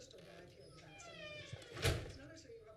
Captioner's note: door creaks; door slams